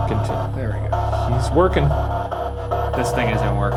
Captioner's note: noise crackles